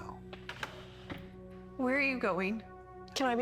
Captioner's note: chair scraping